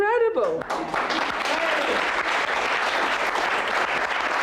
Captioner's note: crowd applauding